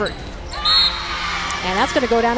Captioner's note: whistle blows and crowd cheers